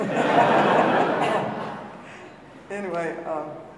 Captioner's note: audience laughing